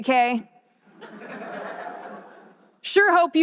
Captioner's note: audience laughter